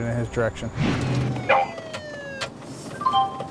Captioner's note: police siren; computer sounds